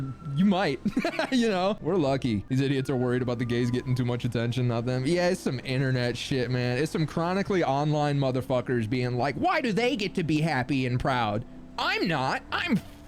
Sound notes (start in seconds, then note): 0.8 laughing; 9.4 whiny voice